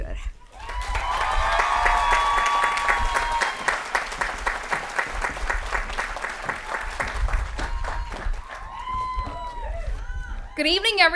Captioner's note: applause & Cheering